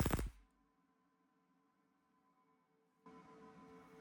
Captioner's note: welding noise